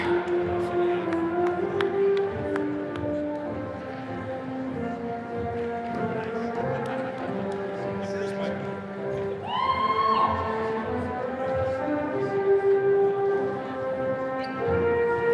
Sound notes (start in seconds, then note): 9.4 attendee cheering